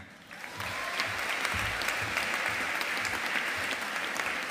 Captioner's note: audience applauding